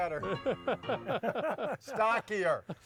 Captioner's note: men laughing